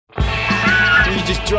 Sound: birds cawing

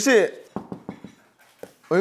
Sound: knock knock

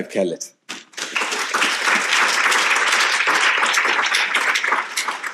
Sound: audience applauding

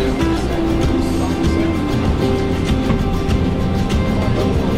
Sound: crowd

